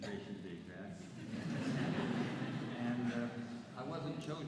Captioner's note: laughter